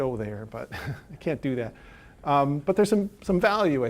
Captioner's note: chuckling